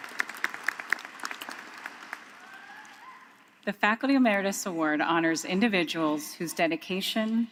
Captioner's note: applause